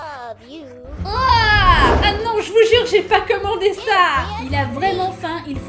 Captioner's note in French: Cri de dégoût